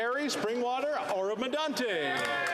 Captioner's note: some Applause